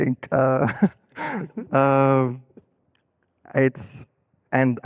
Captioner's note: laughing